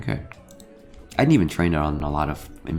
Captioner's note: mouse clicks